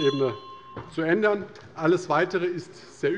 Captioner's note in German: Anhaltende Unruhe - Glockenzeichen des Präsidenten